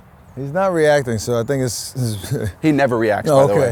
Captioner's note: laughs